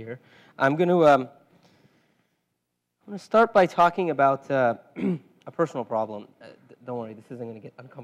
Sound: cough

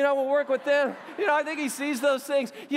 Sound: laughter

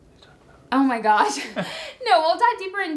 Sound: whispering indistinctly

